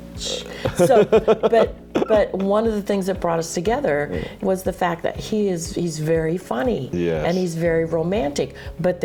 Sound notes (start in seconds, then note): 0.6 laughing